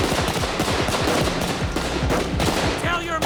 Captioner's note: gunfire continues